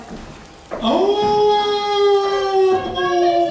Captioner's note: wolf howls